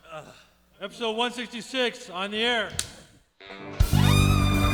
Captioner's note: clapperboard taps; jazzy music